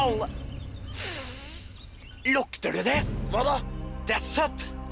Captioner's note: sniffs